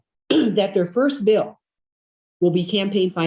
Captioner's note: clears throat